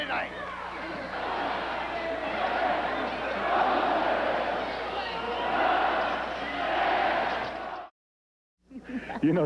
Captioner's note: crowd cheering